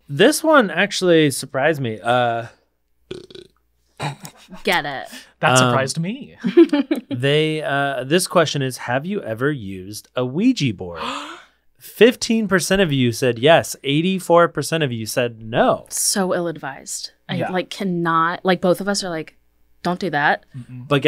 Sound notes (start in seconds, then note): 3.1 burps